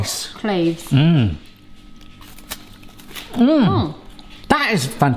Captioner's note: both crunching